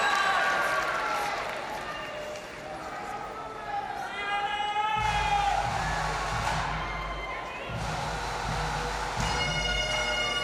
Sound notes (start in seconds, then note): 4.1 crowd member yelling; 6.9 marching band music